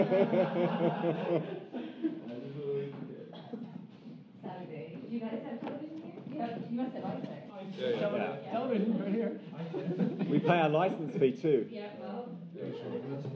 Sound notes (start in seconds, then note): 0.0 laughing; 0.0 room laughs; 8.8 people joking